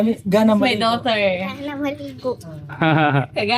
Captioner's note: Speaking Cebuano; laughs; Speaking Cebuano